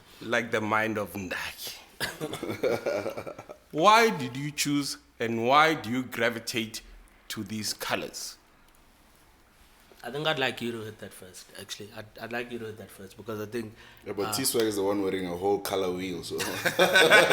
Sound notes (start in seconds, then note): 2.2 laughs; 16.4 everybody laughs